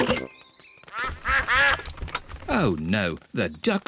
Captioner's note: quacking